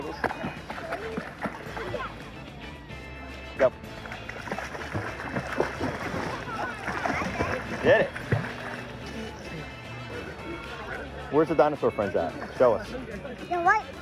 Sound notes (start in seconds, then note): 5.5 water splashing